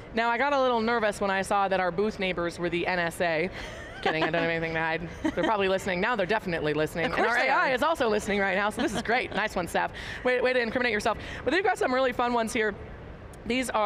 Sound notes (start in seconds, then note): 3.6 laughing